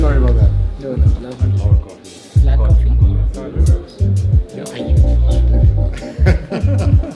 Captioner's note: indistinct conversations; laughter